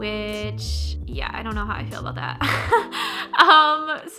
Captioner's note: laughs